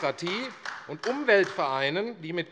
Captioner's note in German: Beifall AfD